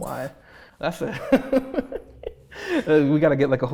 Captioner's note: laughs